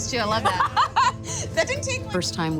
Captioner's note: laughs